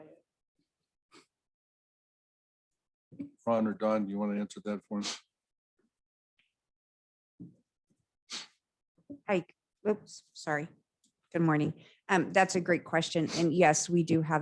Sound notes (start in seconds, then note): 5.2 sniffle